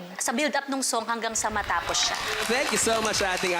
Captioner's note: crowd applauds